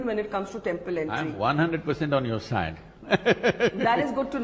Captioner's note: laughs